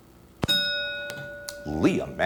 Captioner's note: ding